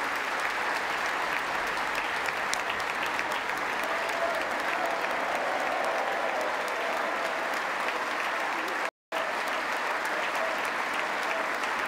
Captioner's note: applause; applause